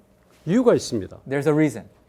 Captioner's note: speaking in Korean